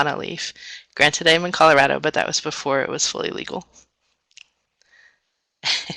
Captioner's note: laughs